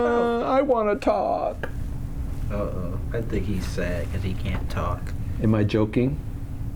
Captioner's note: playful sad voice